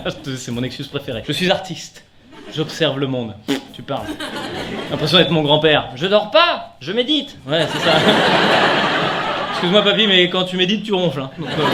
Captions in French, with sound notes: C'est mon excuse préféré, "Je suis artiste" "J'observe le monde"... pfff tu parles ! J'ai l'impression d'être mon grand-père [Voix Grand-Père] Je dors pas, Je médite ! Ouais c'est ça ! Excuse moi papy mais quand tu médites tu ronfles hein, donc heuuu...